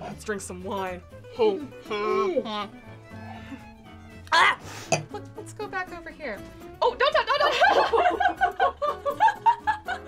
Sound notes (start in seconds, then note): 1.6 grunts; 4.3 exclaims; 7.1 laugh